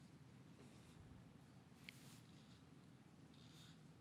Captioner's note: none